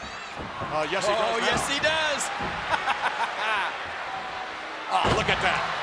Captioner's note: laughs